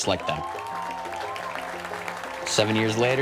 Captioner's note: audience cheers and applauds